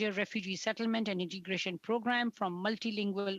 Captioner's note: speaking French